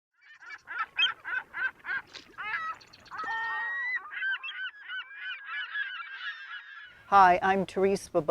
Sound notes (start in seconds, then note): 0.2 seagulls squawking